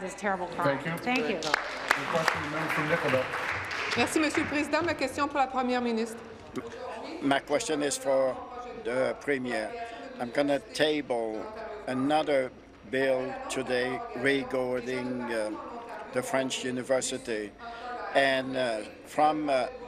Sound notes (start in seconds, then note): 8.2 speaking in french